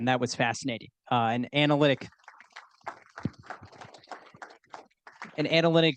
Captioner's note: audience applauding